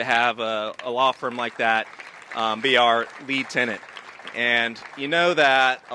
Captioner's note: applause